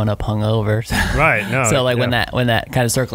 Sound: laughing

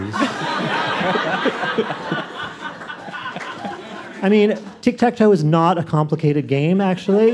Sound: laughter

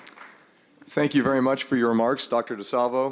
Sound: applause

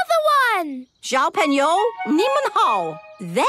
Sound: speaking Chinese

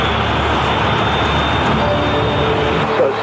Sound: intercom chime

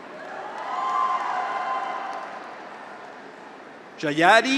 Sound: graduates cheer; audience applauds

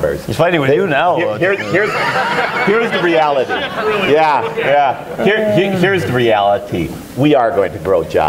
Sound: laughter

